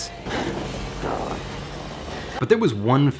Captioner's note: dinosaur snarling